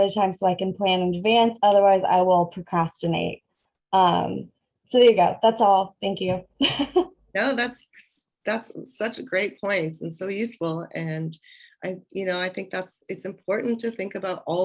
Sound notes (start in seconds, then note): 6.6 laughter